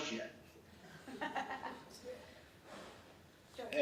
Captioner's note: laughing